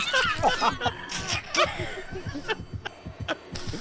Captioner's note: screeching; everyone starts laughing